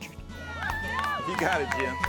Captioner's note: cheers & Applause